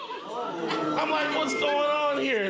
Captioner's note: audience groaning